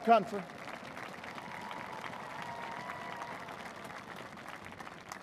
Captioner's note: applause